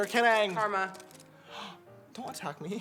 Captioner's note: gasp